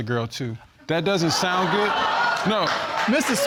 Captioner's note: audience exclaiming